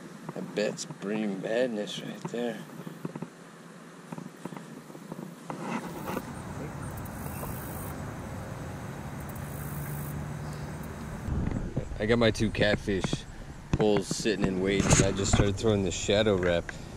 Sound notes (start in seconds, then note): 5.0 camera rubbing on waders; 7.5 grasshoppers calling